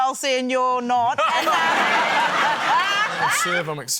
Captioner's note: laughter